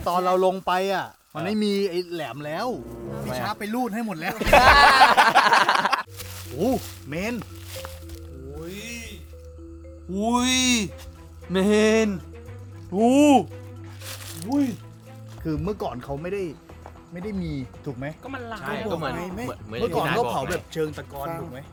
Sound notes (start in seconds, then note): 4.2 laughs